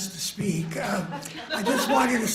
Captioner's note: laughter